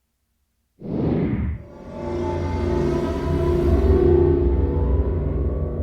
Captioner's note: sci-Fi sound effects